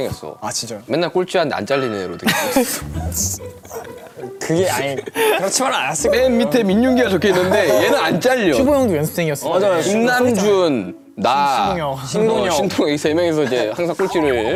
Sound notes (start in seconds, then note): 2.4 choke